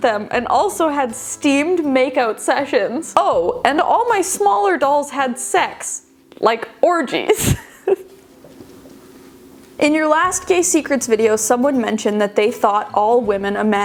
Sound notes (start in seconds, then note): 7.3 laughing